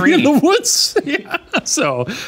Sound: laughing

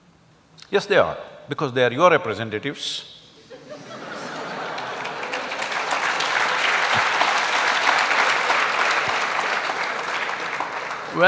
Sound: laughter\Applause

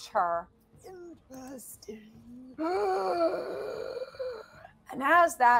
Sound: wheezing

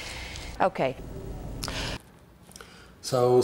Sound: woman takes a breath

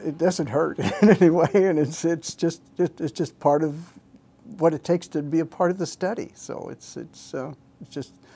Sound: laughs

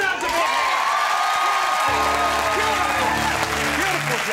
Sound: audience cheering

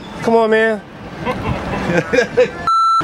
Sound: more laughing

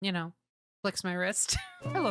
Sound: laughter

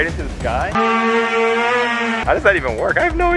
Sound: hoverboard buzzing

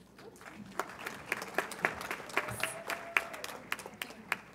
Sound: audience applauds

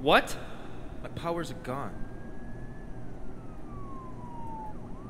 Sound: police Sirens

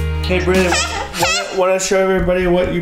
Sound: vocalizing

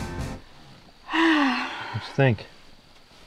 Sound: sighs

